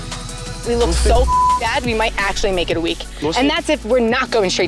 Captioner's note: upbeat music; beep